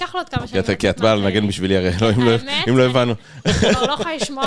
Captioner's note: laughs